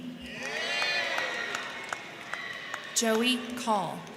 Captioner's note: crowd cheering; crowd clapping